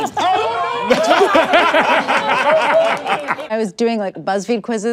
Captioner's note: everyone laughs